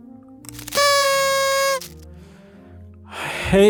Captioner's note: party horn sound